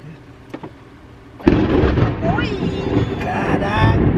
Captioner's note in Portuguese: Som de trovão